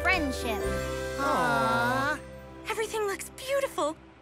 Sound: animals aw

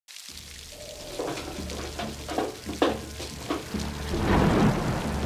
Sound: rain patters; thunder booms

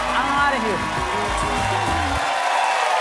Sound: applause

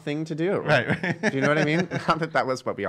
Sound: laughing

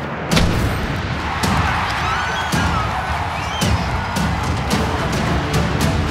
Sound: family cheering

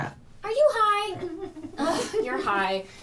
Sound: giggles

